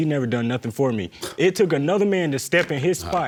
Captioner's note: scoffs